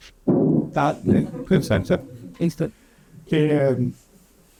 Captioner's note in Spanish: risas